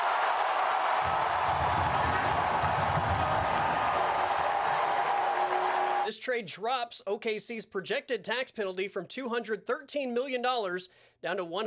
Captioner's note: applause